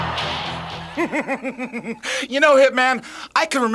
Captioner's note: upbeat music; Jim chuckling